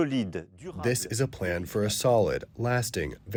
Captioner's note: through translator